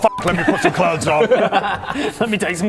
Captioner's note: disappointed laugh